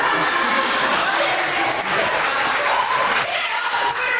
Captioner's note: audience laughs